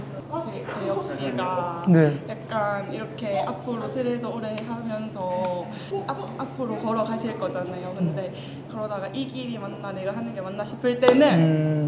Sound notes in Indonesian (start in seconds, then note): none